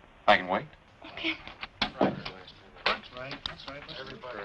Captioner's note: chattering